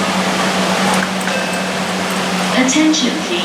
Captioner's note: station chime